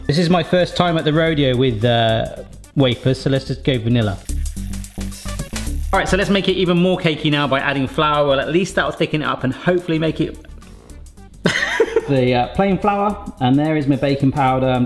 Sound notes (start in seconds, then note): 11.4 laughs